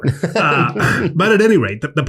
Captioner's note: laughs